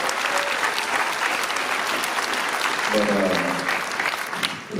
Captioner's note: applause